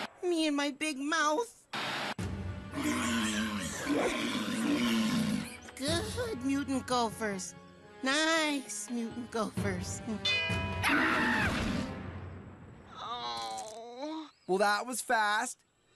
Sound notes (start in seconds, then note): 2.7 gophers Growling; 10.8 Cameron Screaming, Thudding; 12.9 Cameron Groaning